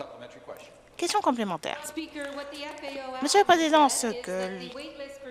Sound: some Applause

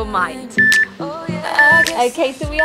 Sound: beeping

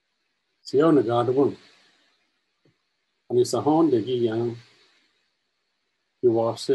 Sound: native language 00:33:17

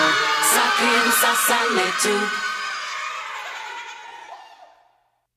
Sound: cheering

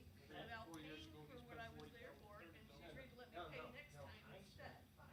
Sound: chattering

